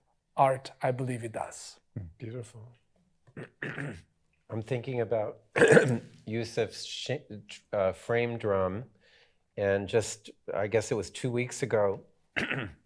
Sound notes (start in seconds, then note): 3.3 clears throat; 5.5 clears throat; 12.4 clears throat